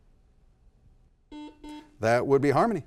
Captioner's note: double beep